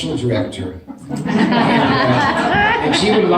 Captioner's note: laughter